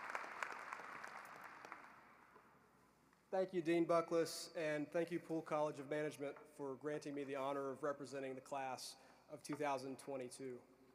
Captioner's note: applause